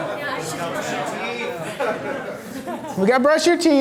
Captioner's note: voiceover